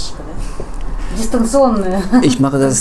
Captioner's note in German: Lachen